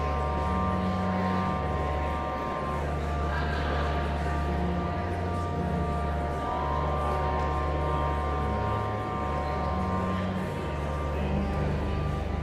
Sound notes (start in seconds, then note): 0.0 enigmatic organ music continues; 5.6 audience chattering continues